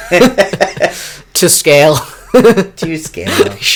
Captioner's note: laughter